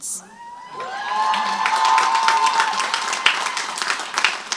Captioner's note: crowd applauds